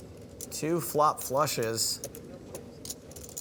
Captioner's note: none